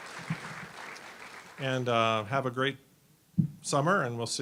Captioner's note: applause